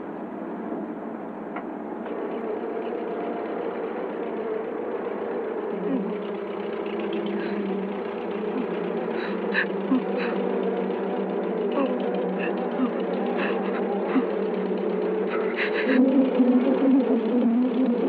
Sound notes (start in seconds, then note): 6.5 bees buzzing; 6.5 engine rumbling